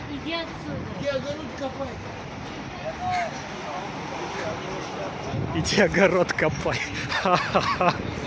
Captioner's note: dialogue in Russian